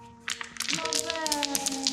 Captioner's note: rocks falling